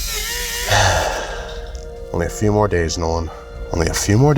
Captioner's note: sighs